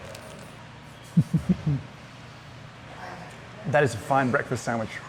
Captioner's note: chuckling